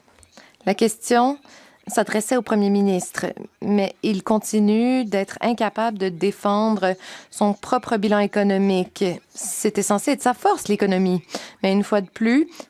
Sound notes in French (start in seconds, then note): 4.3 voix de l'interprète